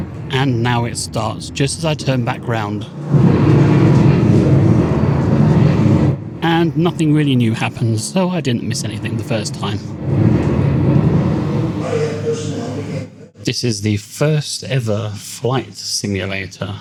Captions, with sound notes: And now it starts just as I turn back round. [aircraft engine] And nothing really new happened, so I didn't miss anything the first time. This is the first ever flight simulator.